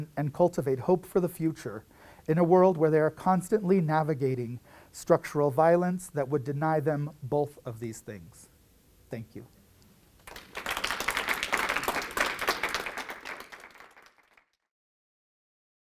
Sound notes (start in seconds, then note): 10.1 audience clapping